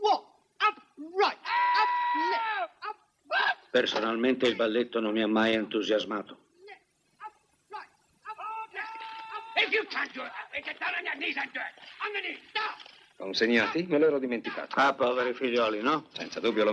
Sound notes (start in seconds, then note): 9.5 man shouting